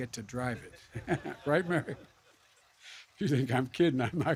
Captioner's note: laughter